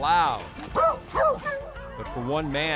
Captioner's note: beagles barking